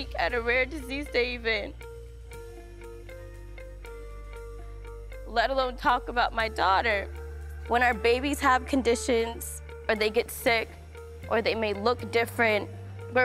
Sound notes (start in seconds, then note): none